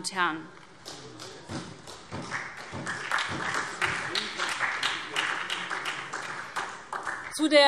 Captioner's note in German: Beifall SPD, vereinzelt CDU und BÜNDNIS 90/DIE GRÜNEN